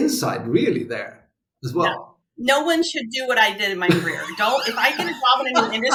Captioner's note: laughs